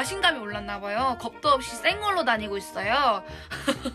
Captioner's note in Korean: 웃음